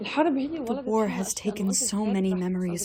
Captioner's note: through translator